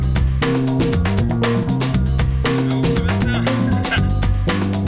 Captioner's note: in french